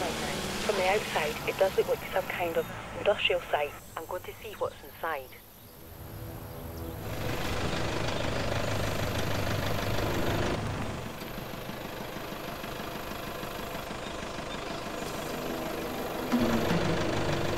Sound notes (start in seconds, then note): 9.5 loud engine ticks over